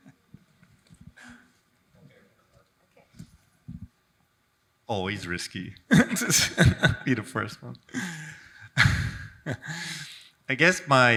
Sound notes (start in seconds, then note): 0.0 chuckles; 5.9 laughs